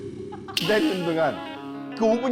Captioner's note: sound effect: Continuing